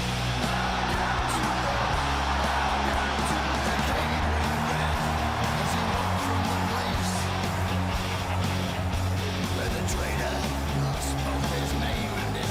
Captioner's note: crowd cheers